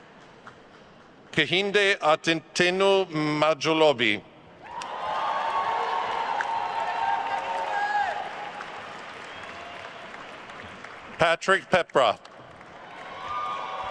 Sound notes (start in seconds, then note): 4.6 attendees cheering and applauding; 7.5 speaks faintly; 8.4 attendees cheering and applauding; 12.4 attendees cheering and applauding